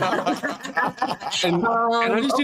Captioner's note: all laughing